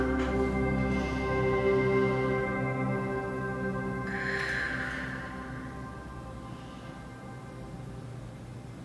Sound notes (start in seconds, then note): 0.5 exhaling; 4.0 inhaling